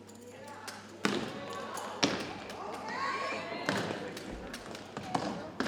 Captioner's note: audience members exclaim